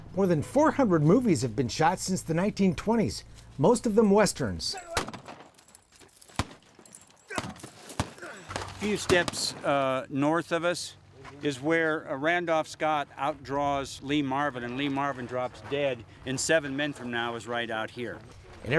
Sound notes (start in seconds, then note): 4.9 guns fire; 8.2 man grunts